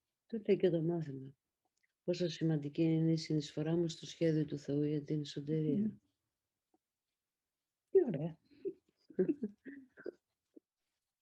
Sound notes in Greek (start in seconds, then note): 9.2 γέλια